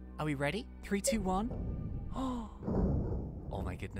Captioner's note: gasps